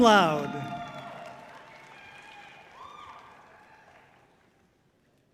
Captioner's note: audience cheering loudly